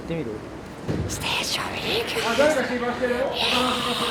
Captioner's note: loud whisper